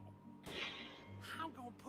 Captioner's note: gunshot